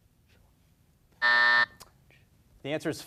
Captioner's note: buzzer buzzes